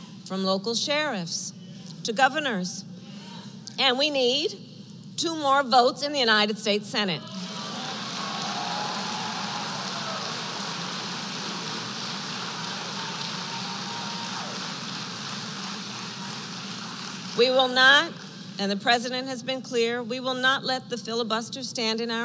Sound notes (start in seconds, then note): 7.3 applause